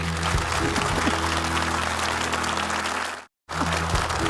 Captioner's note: uplifting music; audience applauding